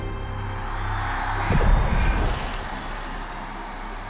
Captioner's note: loud cheering